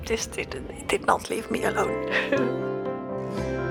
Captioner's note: weird chuckles